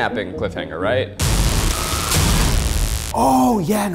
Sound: dramatic buzzing

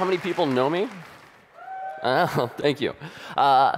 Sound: audience cheering

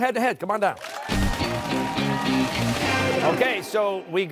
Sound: cheers and applause

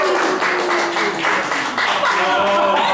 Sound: applause

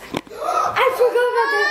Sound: gasps

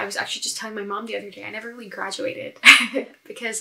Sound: laughs

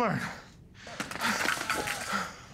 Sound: panting

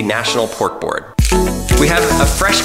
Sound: shaker grinding

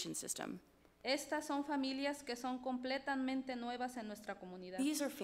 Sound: speaks foreign language

